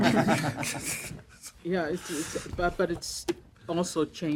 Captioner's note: laughter